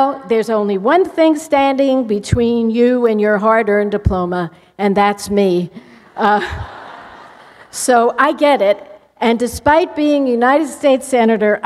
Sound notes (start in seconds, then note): 6.3 laughter